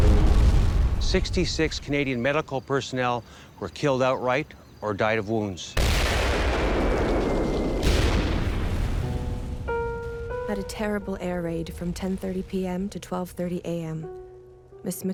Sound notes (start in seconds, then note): 0.0 bombs exploding; 5.8 bombs exploding; 10.9 voiceover